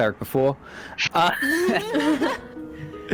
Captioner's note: all supportive laughter